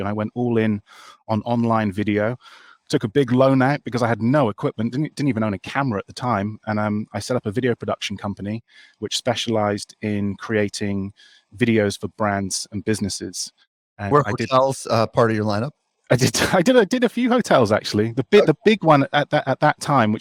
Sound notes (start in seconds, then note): 17.6 laughs